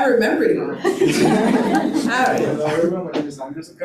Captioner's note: attendees laughing